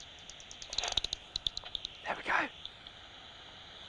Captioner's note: rapid clicking